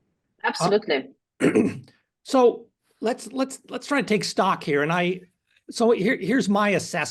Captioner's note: cough